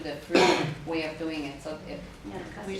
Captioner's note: participant sneezes